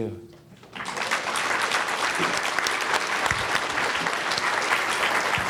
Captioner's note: audience applauds